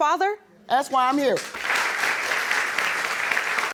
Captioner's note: audience applauding